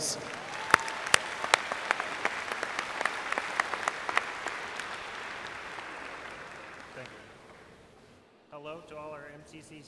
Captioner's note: applause